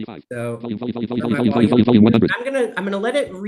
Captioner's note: screen reader narrating extremely rapidly